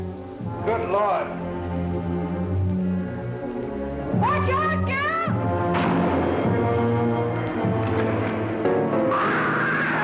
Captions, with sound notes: Good lord. Watch out, Gil! [gunshot] [screams]